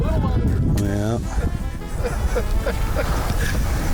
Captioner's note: people laughing